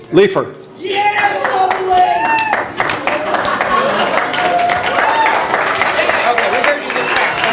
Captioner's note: audience applause